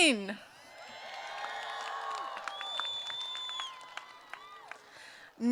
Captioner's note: applause